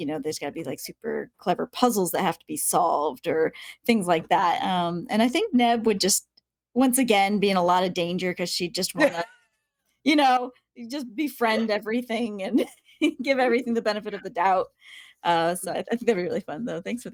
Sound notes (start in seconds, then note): 13.9 giggling